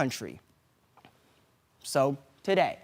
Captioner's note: silent